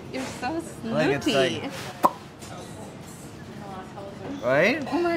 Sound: smacks lips

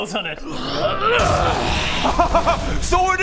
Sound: hrrrgrhryhyrggarghgh!

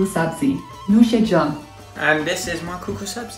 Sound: speaks in foreign language

